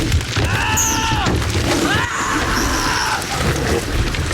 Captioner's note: screaming